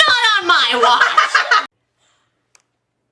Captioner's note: laughs